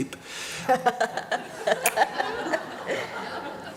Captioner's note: laughter